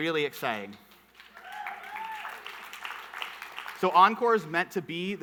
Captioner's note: audience clapping